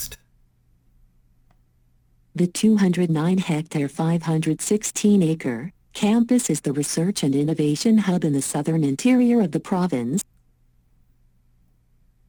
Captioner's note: computer text-to-speech